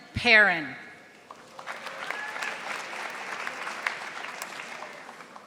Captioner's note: audience applauding